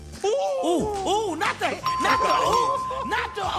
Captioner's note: bell dings